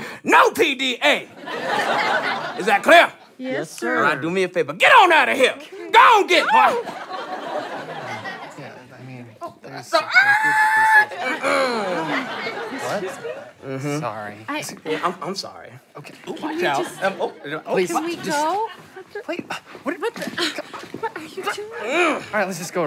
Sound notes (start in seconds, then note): 10.3 squeals; 11.8 clears throat